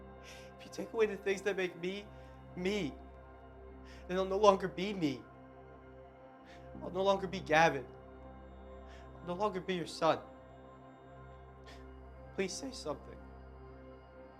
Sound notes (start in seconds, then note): 0.4 voiceover; 7.1 voiceover; 12.5 voiceover